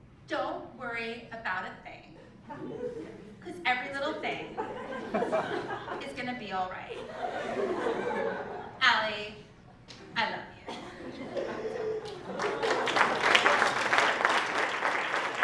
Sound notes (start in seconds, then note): 7.2 laugh; 14.3 applause